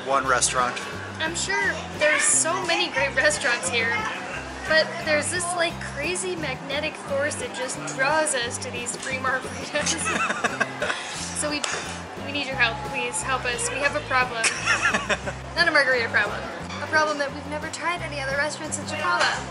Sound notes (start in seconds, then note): 9.6 laughing; 14.7 laughter